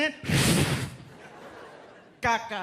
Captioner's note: imitates whooshing airplane